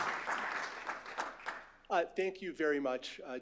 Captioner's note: applause